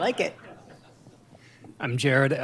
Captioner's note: laughter